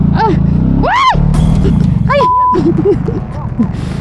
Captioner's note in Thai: ยอุทาน